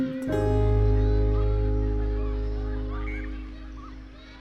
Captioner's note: children shouting and laughing in distance